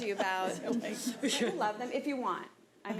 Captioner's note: board members laugh